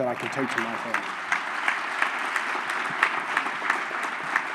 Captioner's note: applause